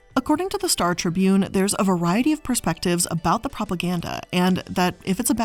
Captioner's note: none